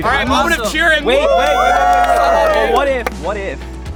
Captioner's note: cheering